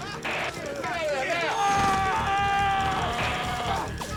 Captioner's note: shouting; gunshots